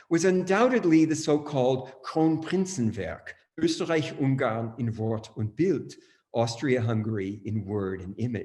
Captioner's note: speaking german